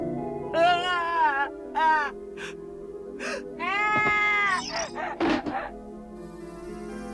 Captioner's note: sobs